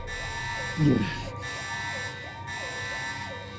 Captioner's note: moans